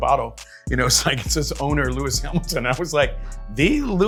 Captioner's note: laughs